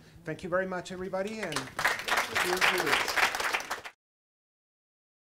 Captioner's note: audience clapping